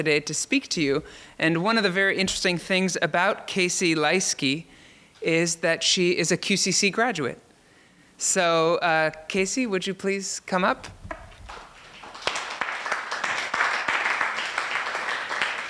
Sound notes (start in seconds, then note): 11.4 applause